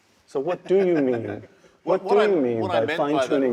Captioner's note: laugh